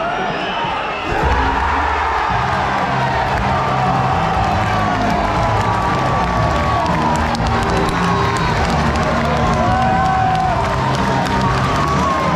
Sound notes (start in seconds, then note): 1.3 crowd cheering; 5.5 crowd clapping